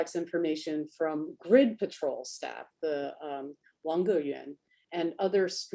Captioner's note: speaks Chinese